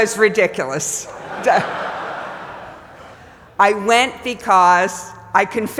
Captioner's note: laugh